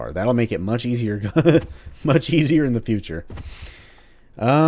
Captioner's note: laughs